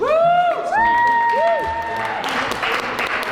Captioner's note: crew cheering; all applauding